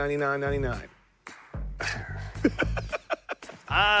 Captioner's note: sighs; laughs